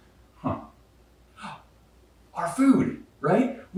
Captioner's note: exclaims